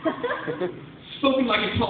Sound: laughter

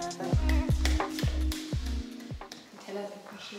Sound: hands clap

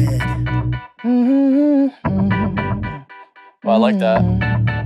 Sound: humming

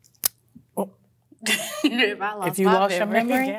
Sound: laughs

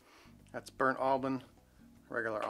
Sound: sniffs

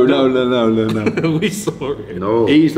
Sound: laughs

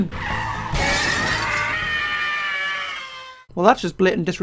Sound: car crash and screaming

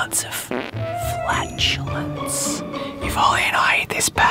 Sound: fart noise

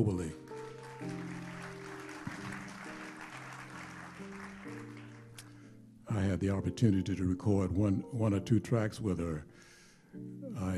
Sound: applause

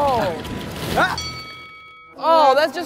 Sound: bell dings

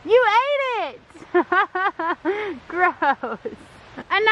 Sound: laughing

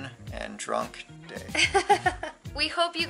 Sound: laughing

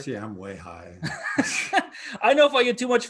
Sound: both laughing

